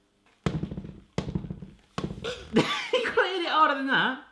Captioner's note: thumping repeatedly